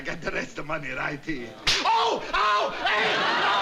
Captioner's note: snap